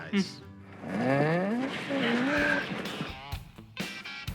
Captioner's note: moaning